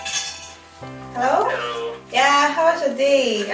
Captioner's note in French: au téléphone